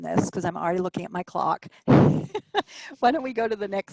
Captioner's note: laughs